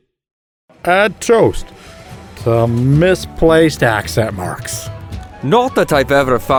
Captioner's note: public speaking voice